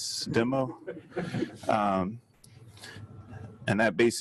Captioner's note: audience laughing